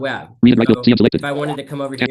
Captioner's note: screen reader narrating extremely rapidly